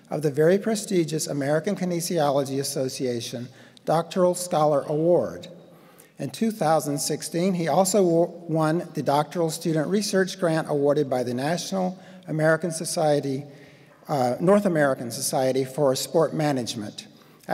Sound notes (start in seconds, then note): none